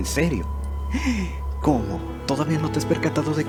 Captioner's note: gasp